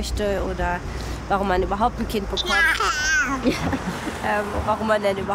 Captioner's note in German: Kind schreit